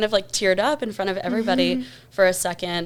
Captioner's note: chuckles